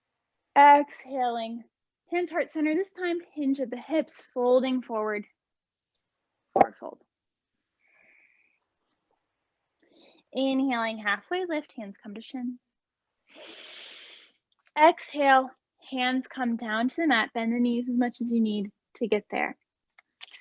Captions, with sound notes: exhaling hands heart center, this time hinge at the hips folding forward fore fold, inhaling halfway lift hands come to shins (inhaling), exhale hands come down to the mat bend the knees as much as you need to get there.